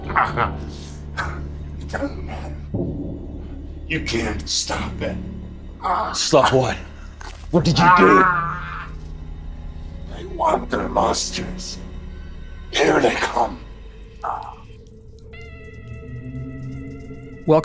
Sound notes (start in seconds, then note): 1.1 vocalizing; 7.5 groaning; 14.3 mysterious music